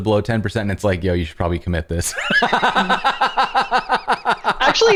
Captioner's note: laughter